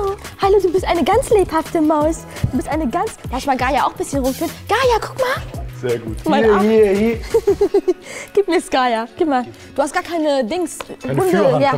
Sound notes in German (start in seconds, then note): 7.2 Lachen